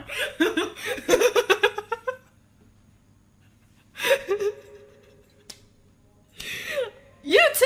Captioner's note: laughs from embarrassment